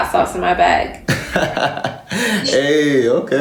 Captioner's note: laughs